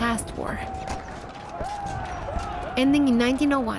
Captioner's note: shouting continues